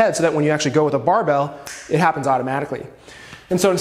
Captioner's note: snaps